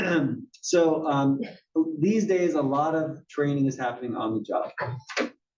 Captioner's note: cough